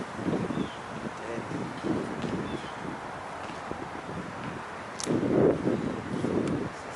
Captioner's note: wind howling